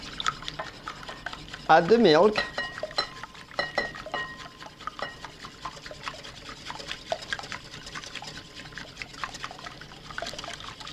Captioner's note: whisking sounds; whisking sounds